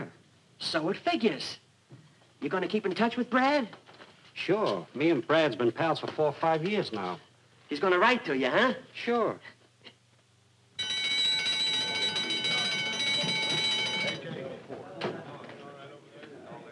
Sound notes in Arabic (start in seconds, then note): 10.8 رنين الجرس بصوت عال